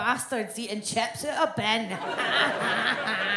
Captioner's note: audience laughs